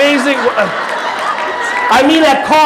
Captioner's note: audience laughing